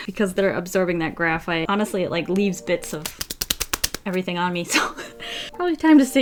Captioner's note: clappityclapclapclap